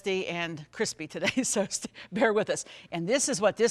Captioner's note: chuckles